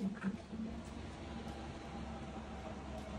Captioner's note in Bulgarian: минаване на метрото